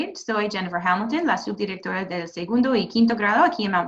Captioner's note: speaking Spanish